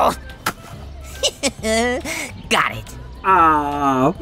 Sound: laughs

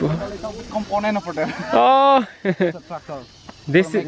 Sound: speaking Indonesian

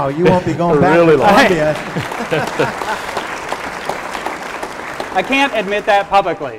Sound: applause

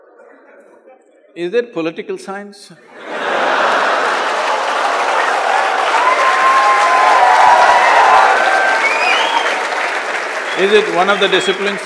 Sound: cheers/Applause

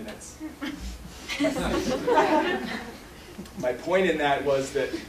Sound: laughter

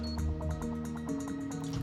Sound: keypad beeping

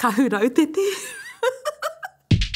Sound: laughs

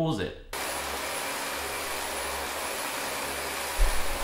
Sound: vacuum running

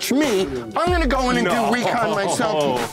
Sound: laughs

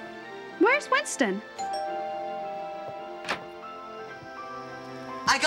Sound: doorbell rings

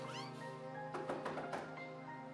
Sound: knock on door

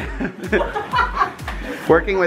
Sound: laughing

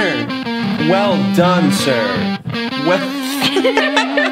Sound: guitar music sound; laughter

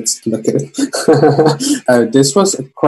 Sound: laughs

